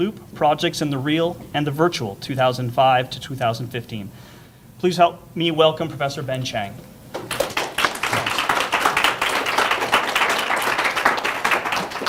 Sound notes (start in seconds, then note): 7.1 applause